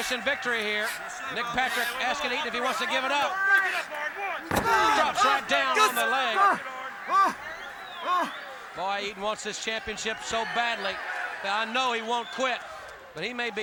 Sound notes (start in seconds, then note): 4.1 crowd chatter; 8.1 crowd chatter